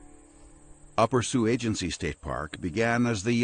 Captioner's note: voiceover